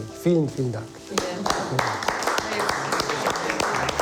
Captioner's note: speaking in foreign language; clapping